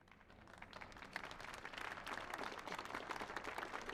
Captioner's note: audience applauds